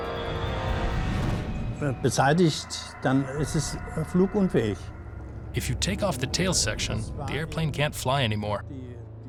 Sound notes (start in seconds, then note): 1.6 speaking german